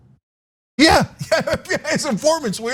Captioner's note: laugh